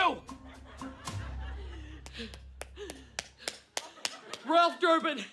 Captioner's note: clapping